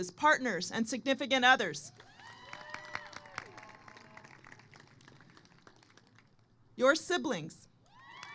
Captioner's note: applause